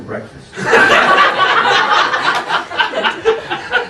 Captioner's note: laughing